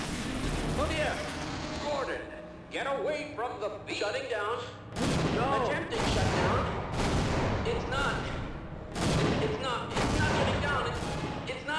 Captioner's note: resonance cascade sounds